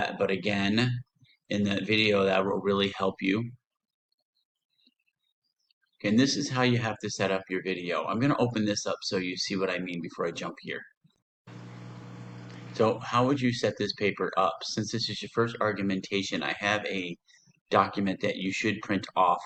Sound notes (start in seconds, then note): 11.5 background microphone sound